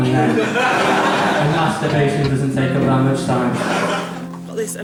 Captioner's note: laughter